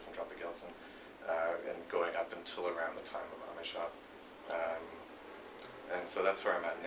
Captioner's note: non-english speech; non-english speech